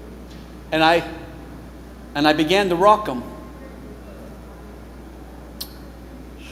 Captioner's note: smacks lips